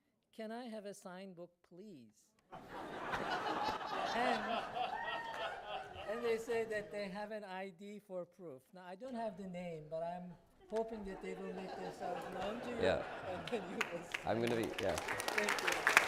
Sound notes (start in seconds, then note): 2.5 laughter